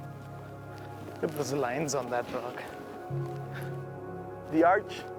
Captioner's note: panting